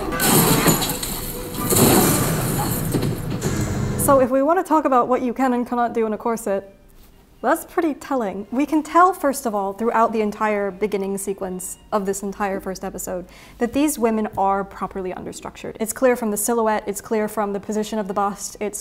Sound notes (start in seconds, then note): 0.0 glass shatters